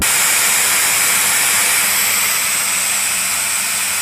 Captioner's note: hissing of air escaping tire